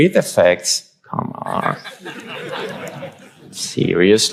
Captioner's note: audience laughs